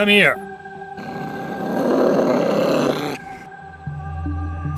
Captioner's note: Jackson growls